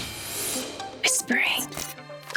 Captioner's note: Dr. Brain whispering